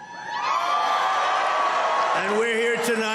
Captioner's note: crowd cheering